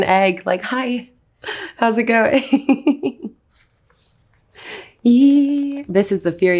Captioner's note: Anya laughs